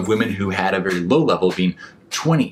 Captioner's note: clapping